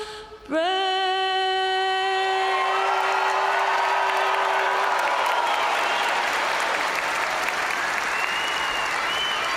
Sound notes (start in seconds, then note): 2.4 crowd cheering; 2.6 crowd applauding